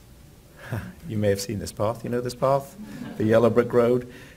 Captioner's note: laughs